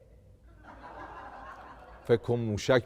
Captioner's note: laughter